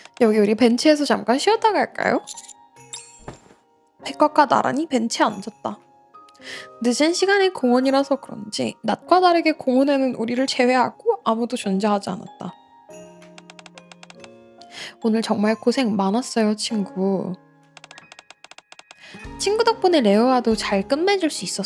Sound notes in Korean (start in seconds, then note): 14.3 종소리